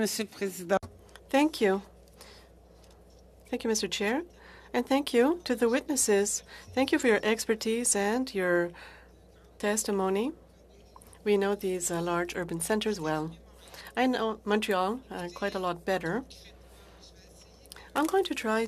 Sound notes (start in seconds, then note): 2.4 speaking FRENCH